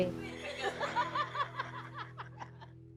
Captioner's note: laughs